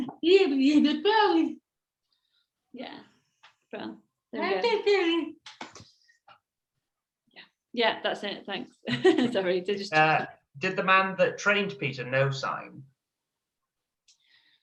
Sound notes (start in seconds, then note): 9.3 laughs